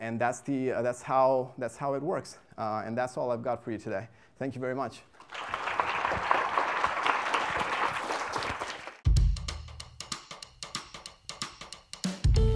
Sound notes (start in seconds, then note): 5.2 applause